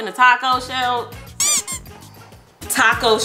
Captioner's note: rubber toy squeaks